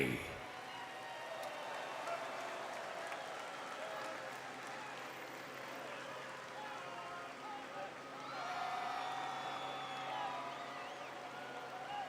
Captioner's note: cheers and applause